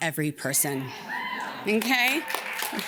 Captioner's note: audience cheers; audience cheers and claps